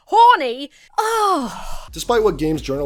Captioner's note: groans